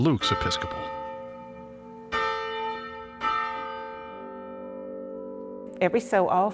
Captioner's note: bell tolls